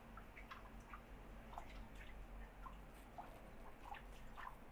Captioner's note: water splashing